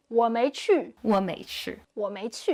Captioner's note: speaking Chinese